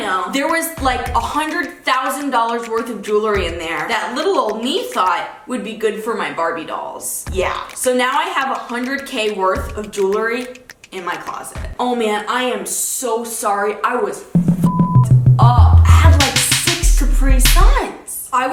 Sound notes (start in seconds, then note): 14.4 beep